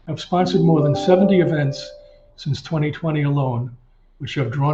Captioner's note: chime ringing